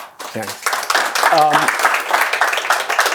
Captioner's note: applause